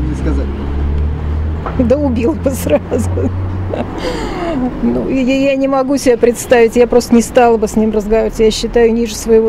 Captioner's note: laughs